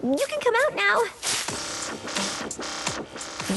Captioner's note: electronic buzz